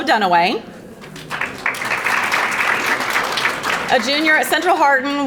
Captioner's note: audience applauding